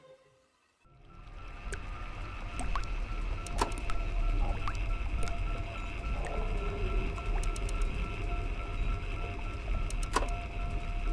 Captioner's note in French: Bruits d'eau qui goutte ou coule et de mécanismes en marche